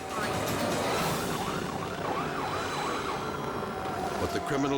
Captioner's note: sirens wailing